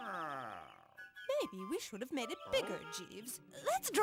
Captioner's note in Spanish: interesada